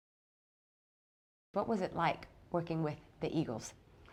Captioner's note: voiceover